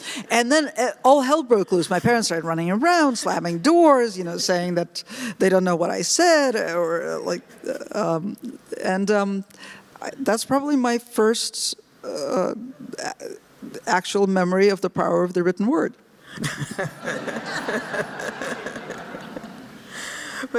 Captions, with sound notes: And then all hell broke loose. My parents started running around, slamming doors, saying that they don't know what I said, and that's probably my first actual memory of the power of the written word. (laughter)